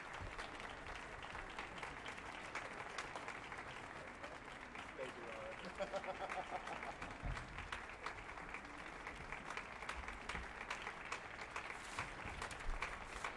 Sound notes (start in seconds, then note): 5.6 soloist laughs